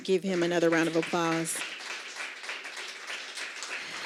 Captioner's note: applause